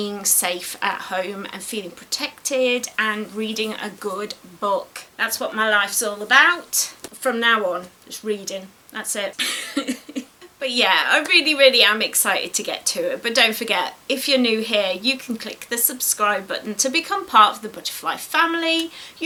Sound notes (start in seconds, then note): 9.3 giggles